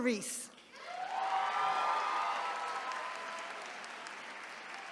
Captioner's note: attendees cheering